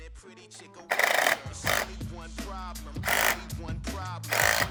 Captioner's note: whirring